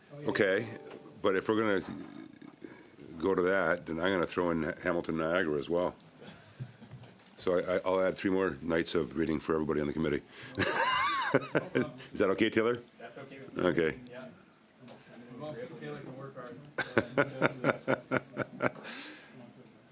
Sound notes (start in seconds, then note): 16.8 laughter